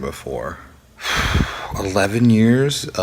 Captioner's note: sighs